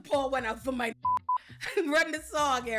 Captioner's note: beep